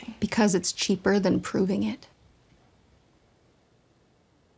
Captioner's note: none